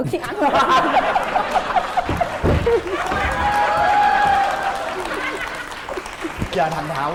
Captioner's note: laughing and applause